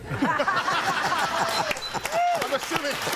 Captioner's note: crowd laughing